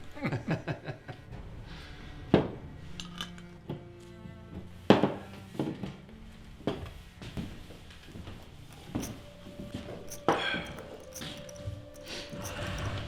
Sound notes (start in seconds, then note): 0.0 men laughing; 0.1 somber music; 8.8 chips clinking